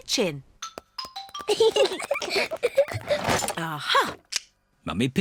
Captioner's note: peppa and george giggling